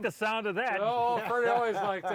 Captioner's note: laughing